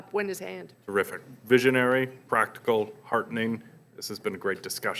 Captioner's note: voiceover